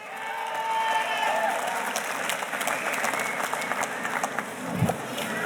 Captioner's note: audience cheers and applauds